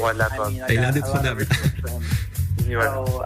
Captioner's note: laughs